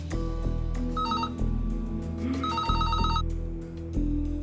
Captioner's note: phone trilling